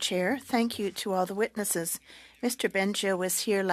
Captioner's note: speaking French